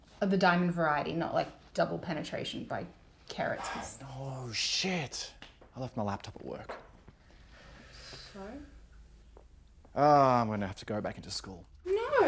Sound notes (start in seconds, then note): 3.6 sighs